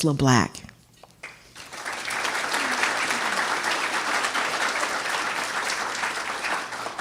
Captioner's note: audience applauding